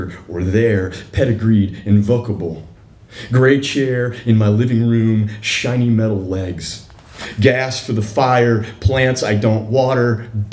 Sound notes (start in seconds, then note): none